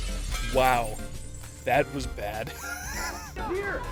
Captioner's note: wheeze